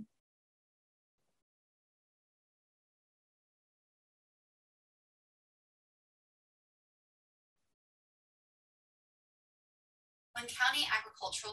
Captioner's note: silence